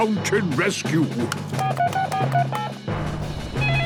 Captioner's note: phone beeping; phone ringing